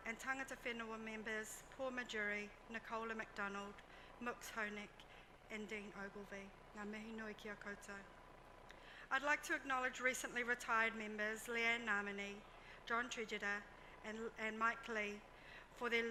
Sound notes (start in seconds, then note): 7.0 speaks in foreign language